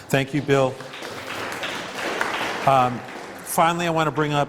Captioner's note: applause